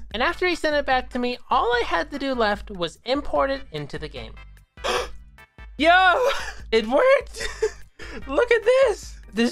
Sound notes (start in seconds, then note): 4.8 gasp